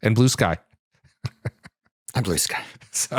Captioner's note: laughs